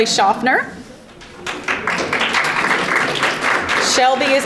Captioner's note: audience applauding